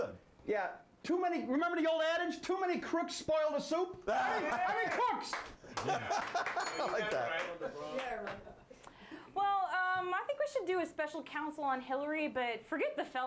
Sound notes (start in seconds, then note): 4.3 scattered applause; 6.6 bell rings